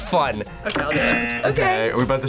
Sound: buzzer rings

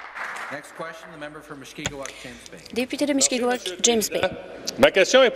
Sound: applause

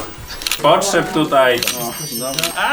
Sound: bells jingling sound

